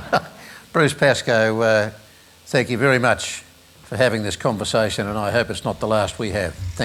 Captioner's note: laughs